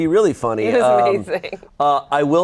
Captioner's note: laughing